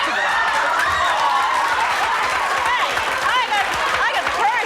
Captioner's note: audience cheers